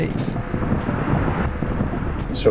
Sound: bus driving

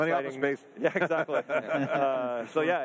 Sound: laughs

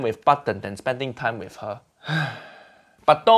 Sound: sighs

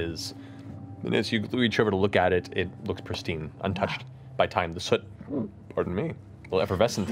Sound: burps

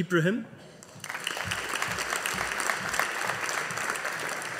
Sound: audience applauding

